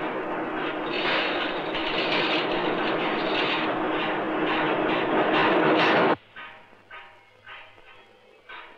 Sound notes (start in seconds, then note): 5.0 machine Sound